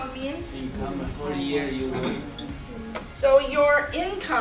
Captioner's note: several students talking